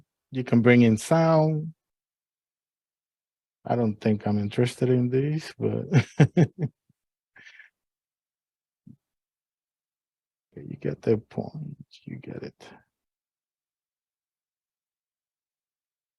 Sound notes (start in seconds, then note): 5.8 laughter